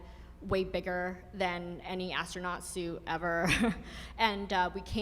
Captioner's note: laughs